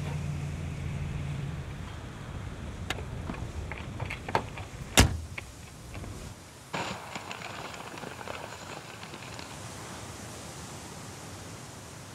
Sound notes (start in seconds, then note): 6.7 ocean hisses